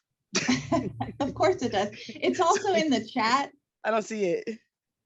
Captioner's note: laughs